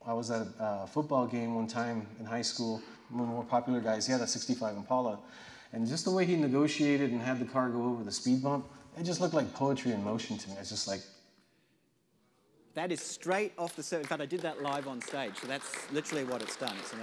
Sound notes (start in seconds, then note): 13.6 audience applause